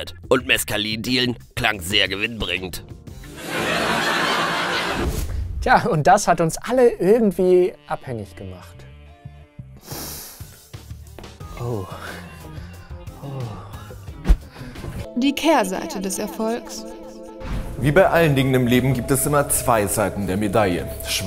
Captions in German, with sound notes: Und Meskalindealen klang sehr gewinnbringend. (Gelächter) Tja, und das hat uns alle irgendwie ... abhängig gemacht. (Lautes Riechen) Oh. Oh. Wie bei allen Dingen im Leben gibt es zwei Seiten der Medaille: